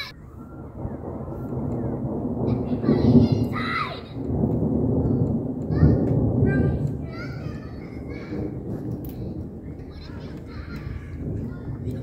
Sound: thunder echoes

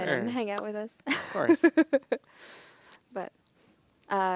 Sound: laughing

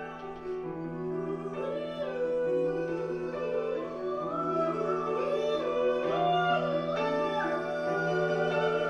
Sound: oos and vocalizations

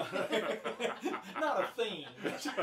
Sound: all laughing

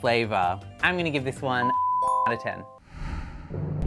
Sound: beep

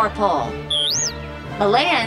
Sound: beeping

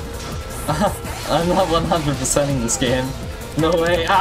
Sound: chuckles

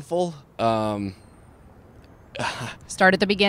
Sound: laughs

